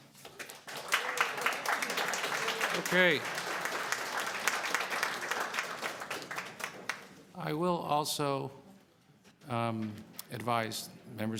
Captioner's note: applause